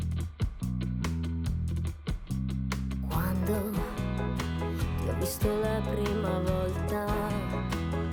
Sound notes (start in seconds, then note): 2.7 vocalizing in foreign language